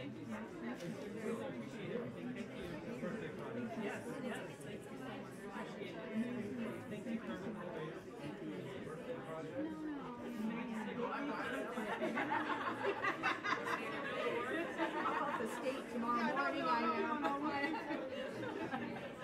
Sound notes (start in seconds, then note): 11.5 laughter